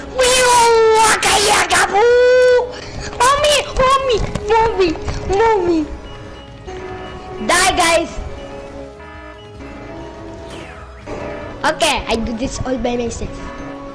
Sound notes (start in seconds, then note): 11.4 in meme voice